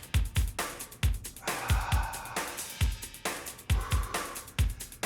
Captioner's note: breathing heavily